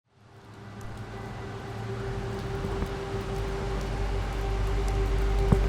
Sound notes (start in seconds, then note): 0.0 footsteps; 0.2 cars passing